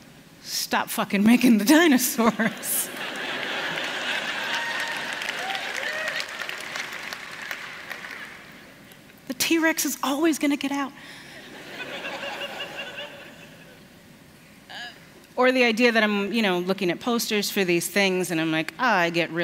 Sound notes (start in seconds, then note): 5.5 applause; 11.4 laughter